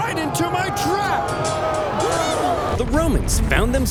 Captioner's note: Carthaginian soldiers yelling